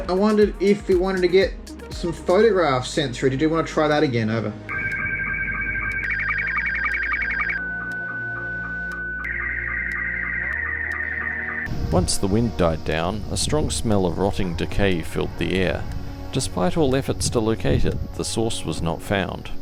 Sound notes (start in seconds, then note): 4.7 SSTV noises